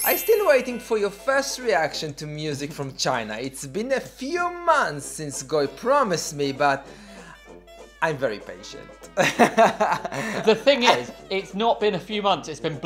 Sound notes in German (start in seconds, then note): 9.2 lacht